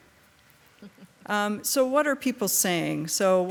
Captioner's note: member chuckling